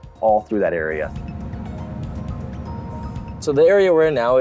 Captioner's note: car engine sound